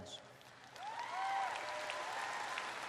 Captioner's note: applause